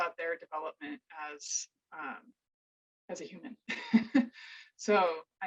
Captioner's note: chuckles